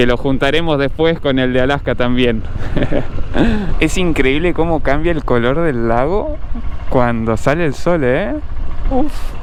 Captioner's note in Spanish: risas